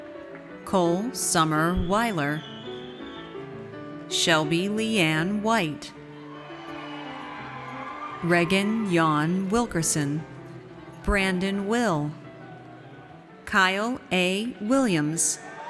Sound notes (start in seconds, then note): 6.1 audience cheers